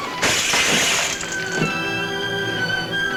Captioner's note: tense music; bottle shatters; dramatic music